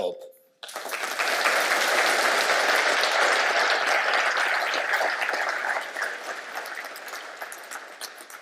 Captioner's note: audience clapping